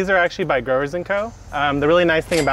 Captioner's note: cash register rings